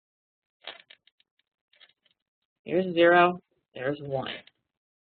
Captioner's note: pause